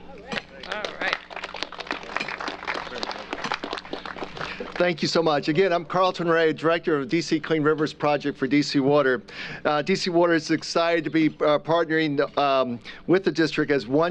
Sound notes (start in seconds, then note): 3.4 applause